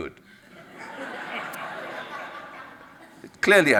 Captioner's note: audience laughs